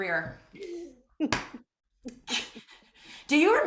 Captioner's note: laughter